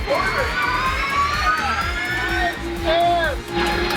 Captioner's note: car whirring